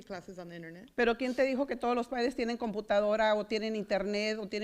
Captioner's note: foreign language